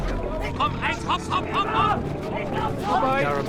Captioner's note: speaks in foreign language